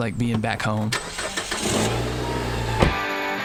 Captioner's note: engine starting; upbeat rock music